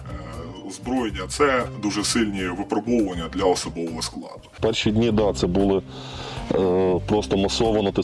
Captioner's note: none